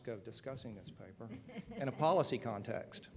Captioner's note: laughter